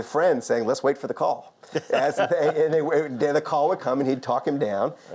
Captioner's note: laughs